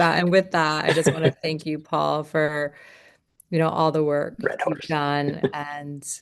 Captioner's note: laughter